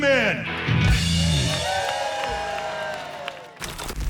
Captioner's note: cheers and applause